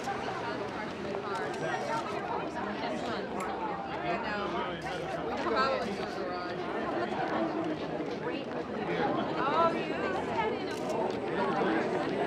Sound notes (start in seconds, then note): 1.3 camera shutter clicks; 5.5 all chattering indistinctly